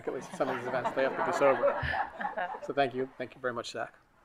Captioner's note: colleagues laughing